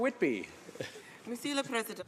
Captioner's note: some Applause